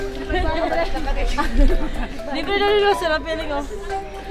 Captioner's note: chattering